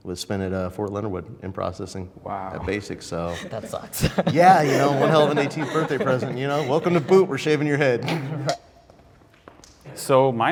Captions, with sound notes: was spent at Fort Leonard Wood processing the basics. - Wow! - That sucks. (laughing) - Yeah, you know. (men laughing) One hell of an 18th birthday present! Welcome to boot. We're shaving your head.